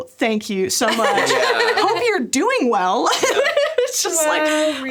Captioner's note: laughs